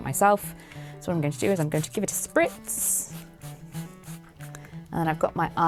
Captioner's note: water spraying